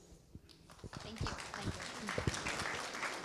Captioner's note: clapping